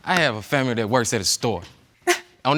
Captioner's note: scoffs